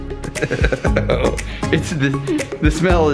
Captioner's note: laughs